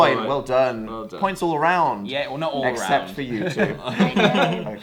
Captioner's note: laughing; laughs; giggle